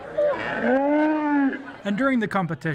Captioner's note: cow noise